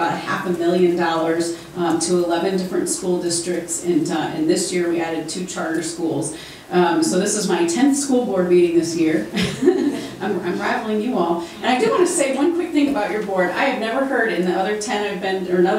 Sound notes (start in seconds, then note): 9.3 laughs